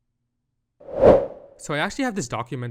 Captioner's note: transition whoosh